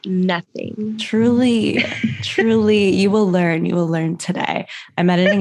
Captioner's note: laughter